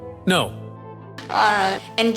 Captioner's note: laughing under breath